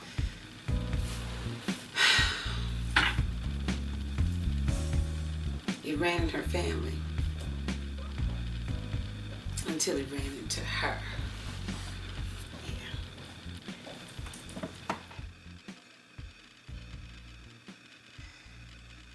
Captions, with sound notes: (sighs) It ran in her family until it ran into her. Yeah.